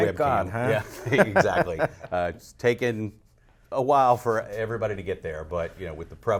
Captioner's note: laughs